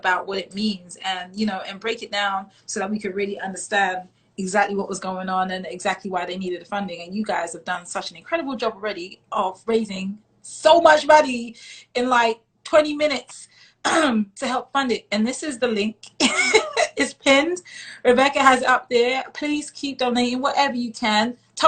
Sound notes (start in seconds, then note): 13.3 clears throat; 16.6 laughs